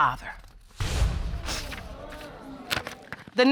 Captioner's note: audience exclaiming